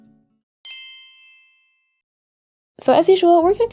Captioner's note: clinks